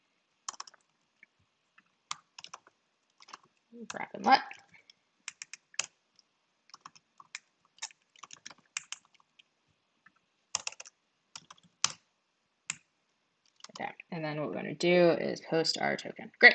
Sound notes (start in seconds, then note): 10.5 keyboard rattling